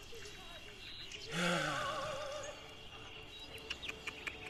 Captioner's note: doctor sighs